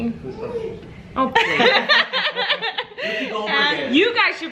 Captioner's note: laughing